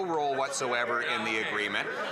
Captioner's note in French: voix de l'interprète